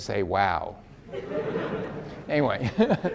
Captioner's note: audience laughs